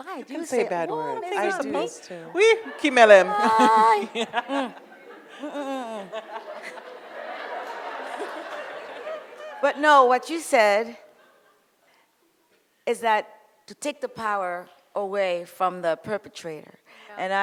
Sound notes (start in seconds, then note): 2.7 speaks foreign language; 6.8 audience laughs